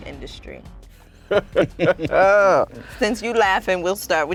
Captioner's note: laughing